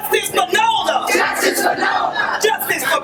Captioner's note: crowd